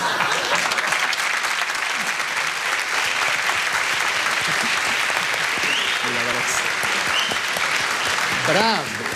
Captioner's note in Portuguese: aplausos